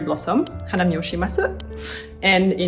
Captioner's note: speaking foreign language